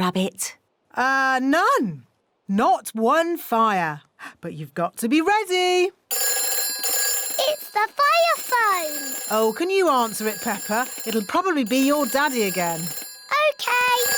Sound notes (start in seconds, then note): 6.1 phone rings